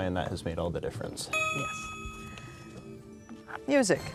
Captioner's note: ding